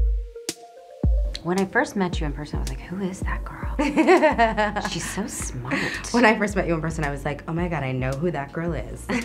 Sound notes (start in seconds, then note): 3.8 laughs; 9.0 laughs